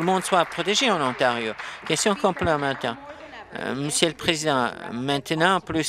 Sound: applause

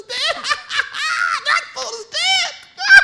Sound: laughing

